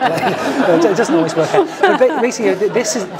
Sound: laugh

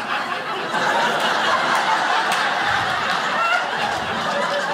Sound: crowd laughs

